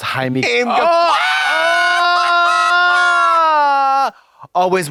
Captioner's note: blonde Women howl